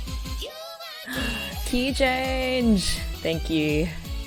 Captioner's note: gasps